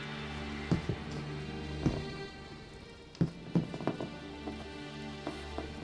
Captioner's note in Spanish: pasos pesados acercándose